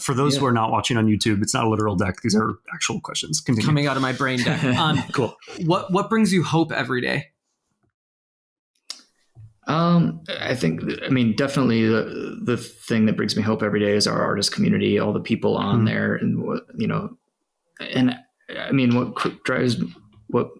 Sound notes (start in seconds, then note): 3.6 laughs